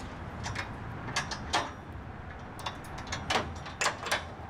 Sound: metal clicking

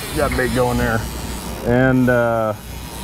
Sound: reel spinning

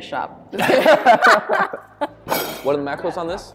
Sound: laughing

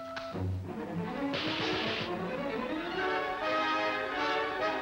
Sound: gun firing

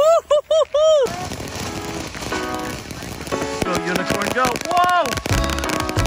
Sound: fireworks popping; sizzling; background shouting

